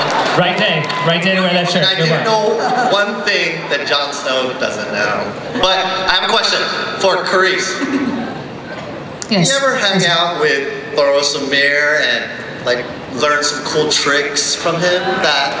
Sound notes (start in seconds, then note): 0.0 laughter; 2.2 voiceover